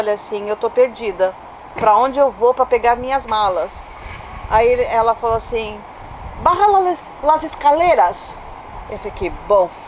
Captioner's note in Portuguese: em espanhol